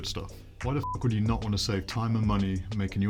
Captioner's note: beep